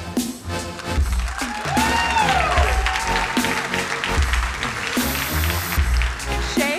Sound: crowd cheering and applauding

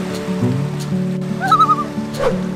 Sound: loon calls

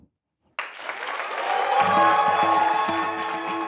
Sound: applause

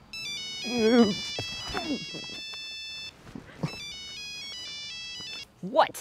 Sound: phone ringing; phone rings

